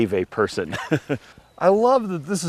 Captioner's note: laughs